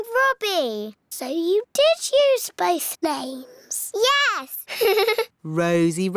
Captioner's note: laughs